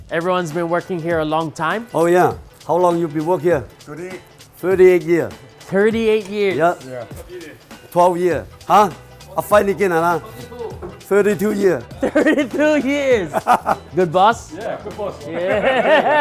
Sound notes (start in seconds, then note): 13.6 laughing